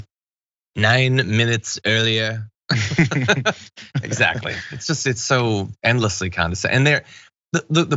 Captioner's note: laugh